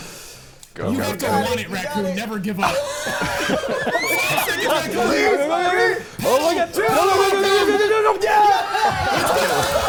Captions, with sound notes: - You have to want it, Raccoon. Never give up. (players shouting indistinctly) - Yeah! - Yeah!